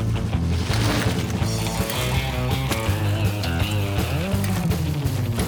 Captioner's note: bikes whooshing; energetic guitar music continues